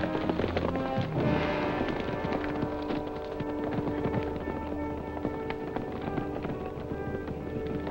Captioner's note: galloping